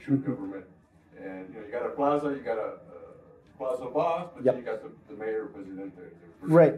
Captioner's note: Spanish